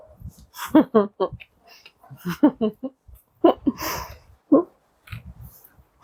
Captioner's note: laughter